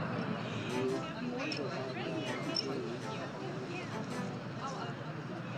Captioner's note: mourners chattering